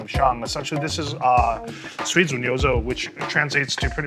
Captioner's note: speaks Chinese